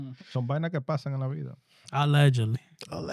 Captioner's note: speaking In Foreign Language